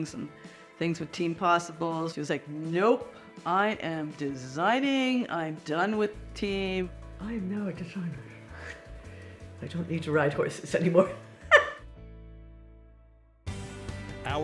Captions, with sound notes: and things with Team Possible. She was like, "Nope, I am designing. I'm done with Team." "I'm now a designer." "I don't need to ride horses anymore." (laughs) (upbeat music)